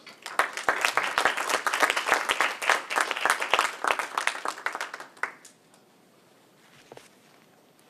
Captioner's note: applause